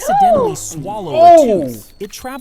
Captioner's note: both gasps